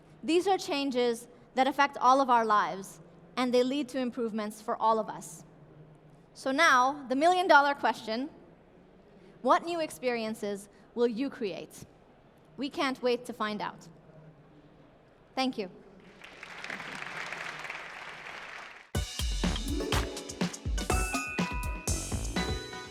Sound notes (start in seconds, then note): 16.0 applause